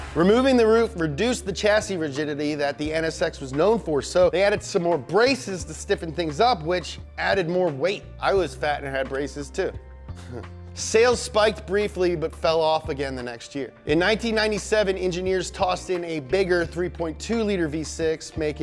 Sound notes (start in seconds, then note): 10.2 laughs